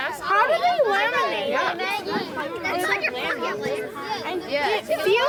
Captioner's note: children clamoring